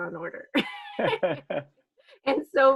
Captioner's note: both laughing